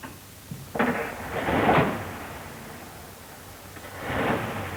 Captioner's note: car engine starts